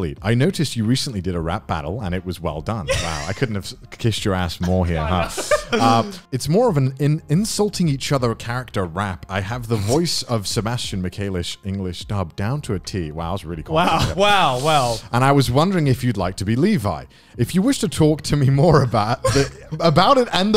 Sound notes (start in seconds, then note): 4.6 laughing